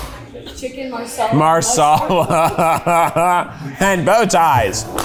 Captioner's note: laughing